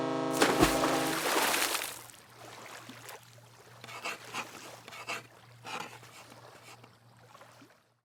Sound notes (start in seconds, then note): 0.0 horn blares; 0.3 water splashes; 3.8 text scratching